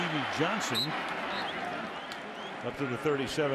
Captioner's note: whistle blows